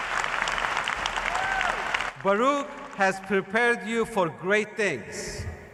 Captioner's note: cheers and applause